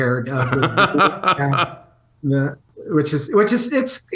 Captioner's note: laughs